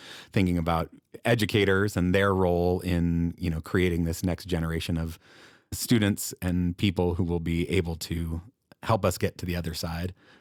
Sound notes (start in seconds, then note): none